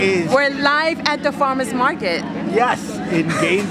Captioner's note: chuckles